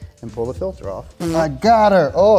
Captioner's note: sound effect hums